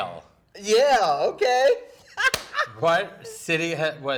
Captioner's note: laughing